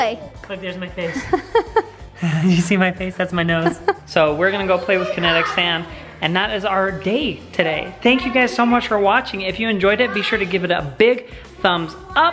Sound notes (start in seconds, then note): 1.0 chuckling